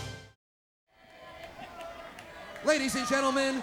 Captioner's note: crowd chattering